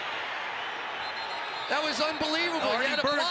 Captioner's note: whistle blows